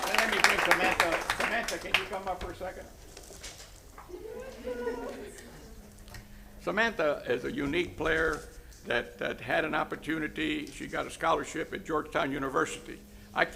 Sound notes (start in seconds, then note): 0.0 applause; 2.4 applause